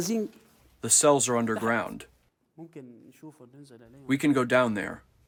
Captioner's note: through translator